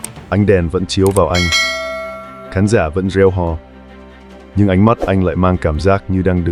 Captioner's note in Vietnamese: chuông